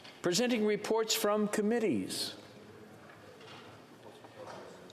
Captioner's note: speaking French